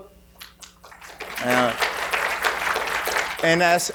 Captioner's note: audience applauding